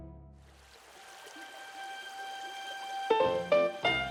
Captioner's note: water flowing